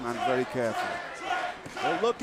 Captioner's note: crowd cheering